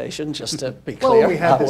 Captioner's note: laughs